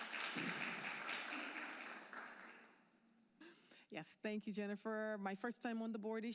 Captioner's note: applause